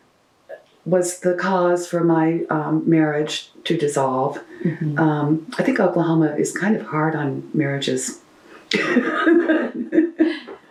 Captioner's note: laughs